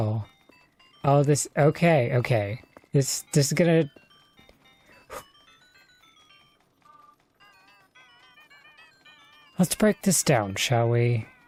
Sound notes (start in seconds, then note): 4.9 takes deep breath